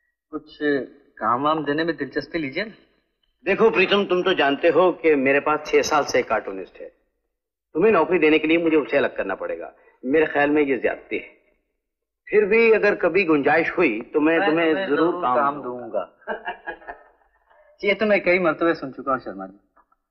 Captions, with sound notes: How about evincing an interest in offering me a job? As you know Pritam, my cartoonist has been working with me for 6 years To put you on the job, I'll have to sack him. That's asking for too much But if there ever arises the opportunity, I'll surely... Give me the job (Laughs) I've heard that several times. But of late...